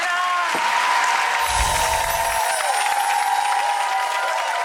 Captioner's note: applause